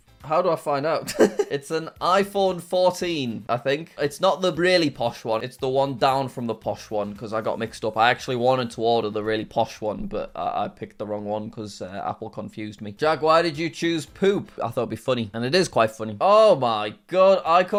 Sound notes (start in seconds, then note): 1.0 chuckles